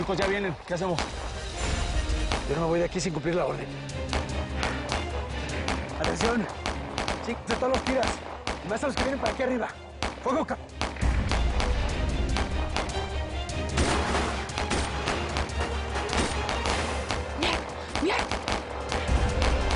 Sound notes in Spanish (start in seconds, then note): 13.6 Disparos